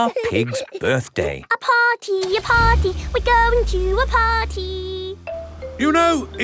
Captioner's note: giggling; sing song voice